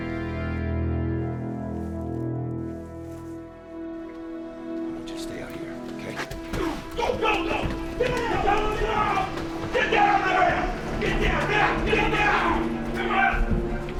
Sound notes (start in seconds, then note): 6.5 police shouting